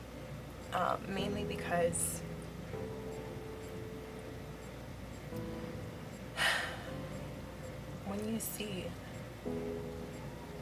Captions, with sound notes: um, mainly because (deep sigh) when you SEE